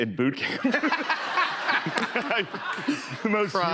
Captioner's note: laughter